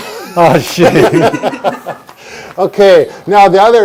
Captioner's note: laughing